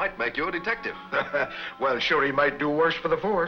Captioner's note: laughs